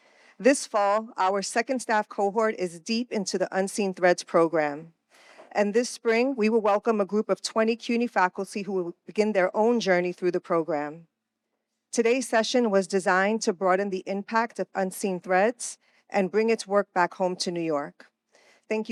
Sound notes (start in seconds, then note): none